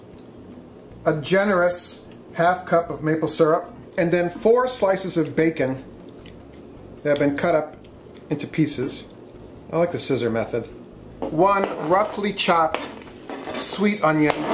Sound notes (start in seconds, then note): 7.8 scissors snap